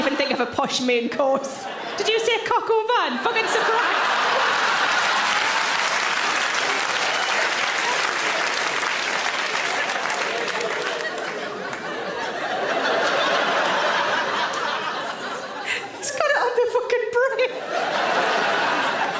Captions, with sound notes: I can't even think of a posh main course. Did you say, "Coq au vin"? Fucking, surprise. (audience laughs and applauds) (audience laughs) He's got it on the fucking brain.